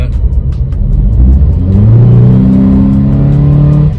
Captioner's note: engine sound